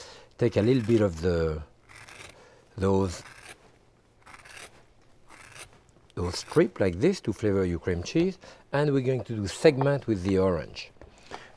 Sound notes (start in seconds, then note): 2.7 vegetable peeler scraping